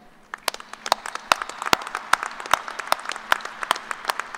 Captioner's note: applause